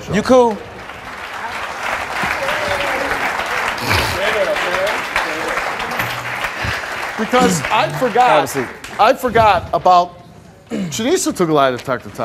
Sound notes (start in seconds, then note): 1.3 audience applauding